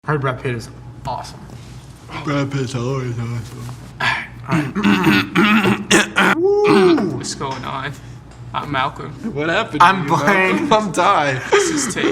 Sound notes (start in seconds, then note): 4.4 clears throat; 6.4 hollers gently